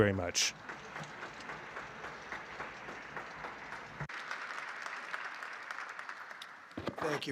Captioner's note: applause